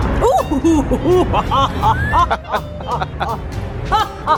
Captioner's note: laughing